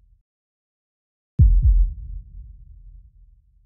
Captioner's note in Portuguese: som de batimentos cardíacos